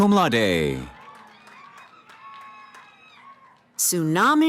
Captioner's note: cheering